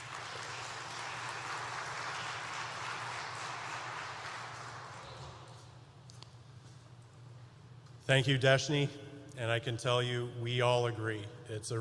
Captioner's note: applause